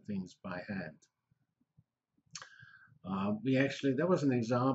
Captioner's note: pause